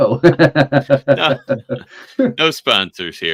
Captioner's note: laughing